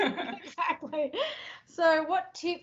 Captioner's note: both laugh